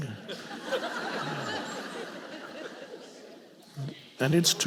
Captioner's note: audience laughing